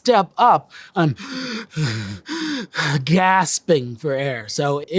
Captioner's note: mock gasping